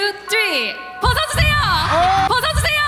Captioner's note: swoosh